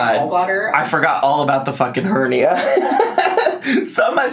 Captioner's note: laughs